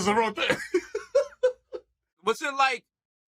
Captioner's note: laughing